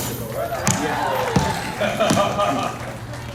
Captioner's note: laughs